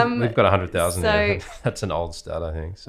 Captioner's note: laughs